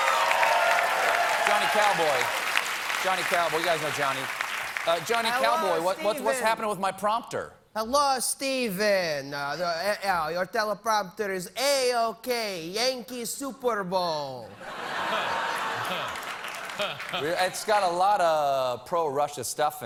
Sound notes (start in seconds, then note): 0.0 applause; 13.3 speaking in russian accent